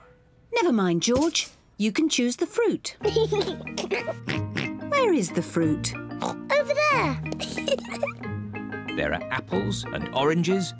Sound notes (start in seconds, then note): 3.0 giggles and oinks; 6.2 oinks; 7.4 giggles